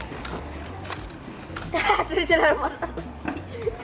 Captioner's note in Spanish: laughing